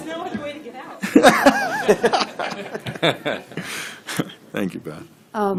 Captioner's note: laughter